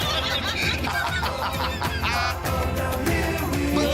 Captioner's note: laughter